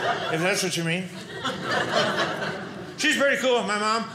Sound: audience laughing

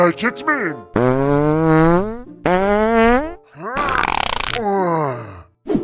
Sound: farting sound

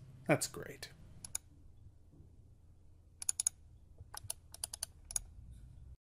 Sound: sounds of mouse clicking are heard

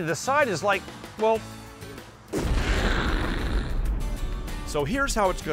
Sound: imitates explosion

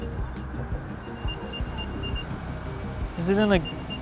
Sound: ringing

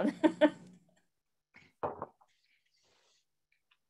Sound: lady laughing

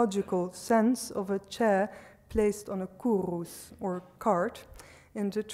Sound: speaks foreign language

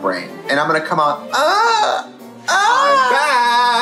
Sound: squeals; laughing

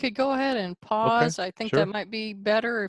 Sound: on phone

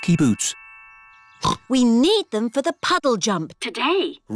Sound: snorts

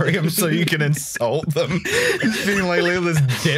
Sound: laughter; laughter

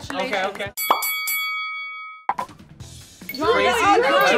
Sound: boxing bell rings

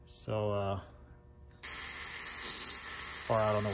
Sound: zapping

